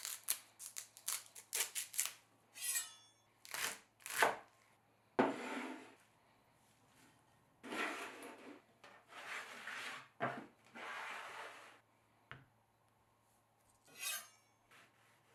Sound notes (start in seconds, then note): 0.2 leaves sliding; 4.0 knife chopping